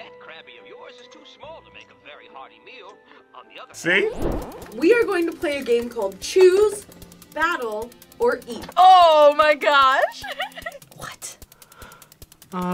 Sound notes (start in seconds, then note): 10.0 laughs